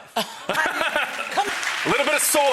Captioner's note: audience clapping